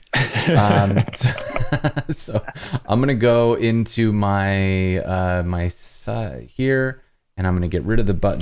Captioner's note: laughter